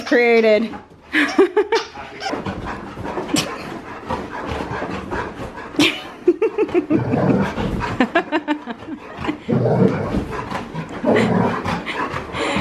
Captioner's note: giggling and laughing